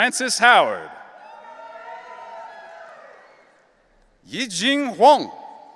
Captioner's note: audience cheering